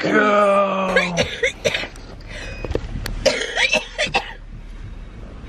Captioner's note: coughing